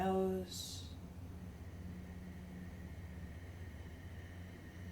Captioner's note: inhales